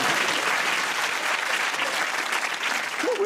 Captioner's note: applause